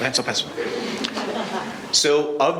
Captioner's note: laughing